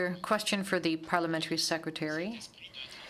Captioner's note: speaking French